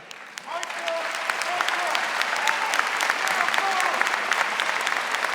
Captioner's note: audience applauding and cheering